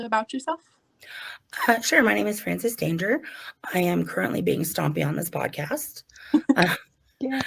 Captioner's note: clapping